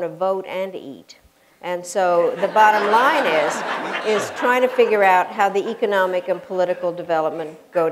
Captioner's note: laughter